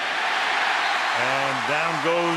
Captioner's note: cheering